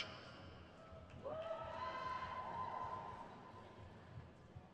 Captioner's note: crowd cheers